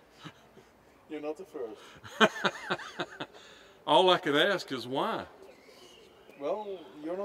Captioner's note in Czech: Smích